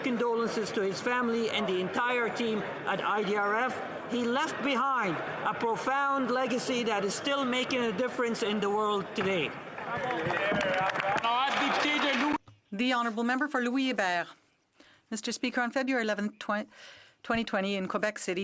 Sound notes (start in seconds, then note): 13.4 some Applause